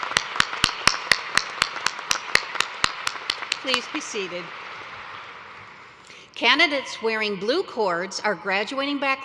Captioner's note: applause